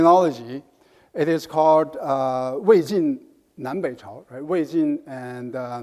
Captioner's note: speaks in foreign language